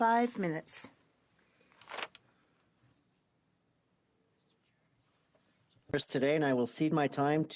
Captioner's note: speaking French